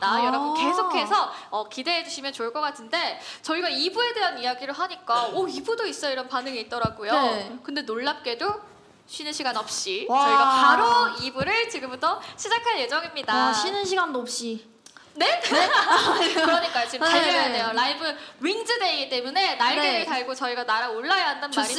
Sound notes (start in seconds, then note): 15.4 laughter